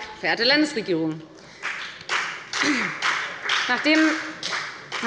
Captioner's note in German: Beifall bei der FDP